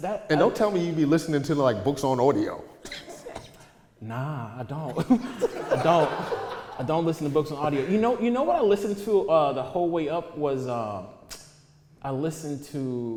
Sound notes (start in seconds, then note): 5.1 audience laughter